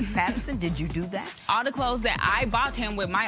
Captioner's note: chuckling